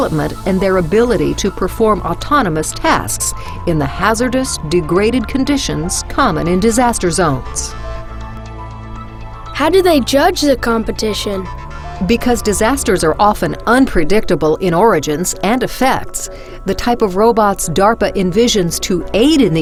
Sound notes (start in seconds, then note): 9.6 voiceover